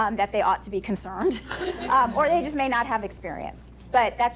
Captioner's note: audience laughing